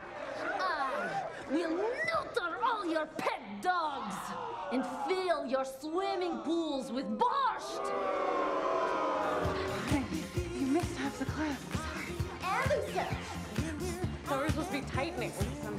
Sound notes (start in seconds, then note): 7.3 crowd booing